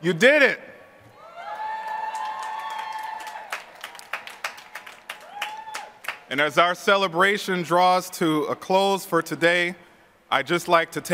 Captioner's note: applause